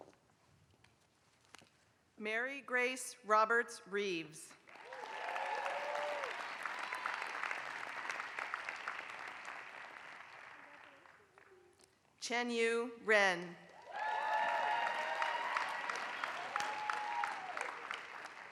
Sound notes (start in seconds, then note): 4.6 applause; 13.7 applause